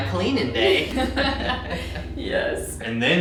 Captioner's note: both laugh